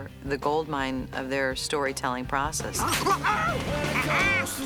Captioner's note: snorts